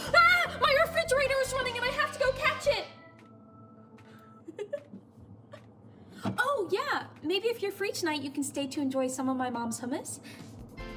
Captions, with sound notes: Ah, my refrigerator is running, I have to go catch it. (chuckling) Oh yeah, maybe if you're free tonight, you can stay to enjoy some of my mom's hummus.